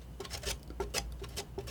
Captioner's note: scratching